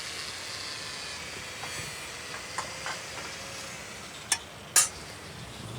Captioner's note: power tools whirring